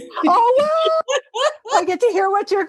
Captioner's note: laugh